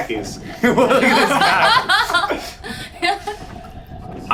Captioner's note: all laugh